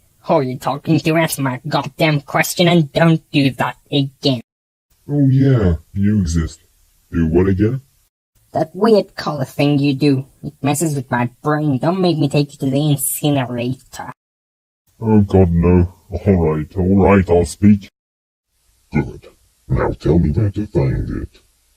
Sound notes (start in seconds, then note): 18.3 serious voice